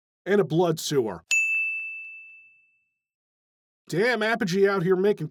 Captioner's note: ding